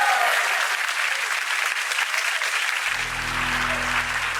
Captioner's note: applause continues; audience applauds